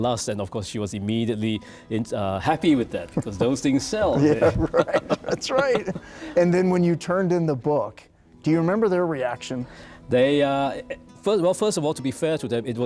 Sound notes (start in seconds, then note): 2.5 laughs